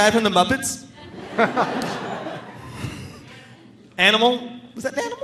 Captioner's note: audience laughing